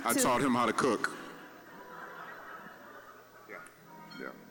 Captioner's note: audience laughing